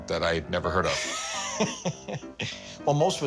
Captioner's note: laughter